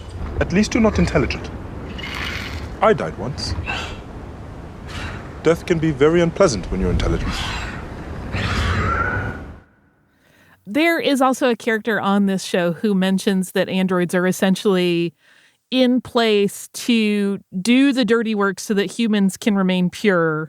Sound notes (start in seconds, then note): 8.3 animal screeches